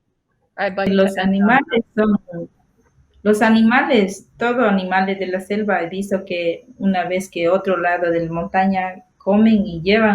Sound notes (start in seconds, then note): 1.3 speaking foreign language